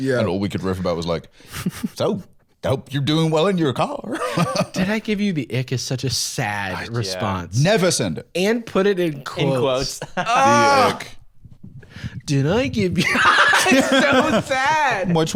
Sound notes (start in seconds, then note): 9.4 laughs; 10.2 groans; 13.0 laughs